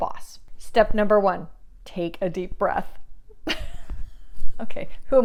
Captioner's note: chuckles